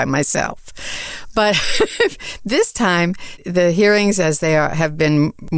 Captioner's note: laughs